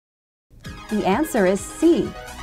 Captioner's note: female announcer speaking